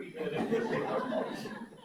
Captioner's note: audience laughs